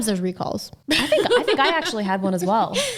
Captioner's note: laughing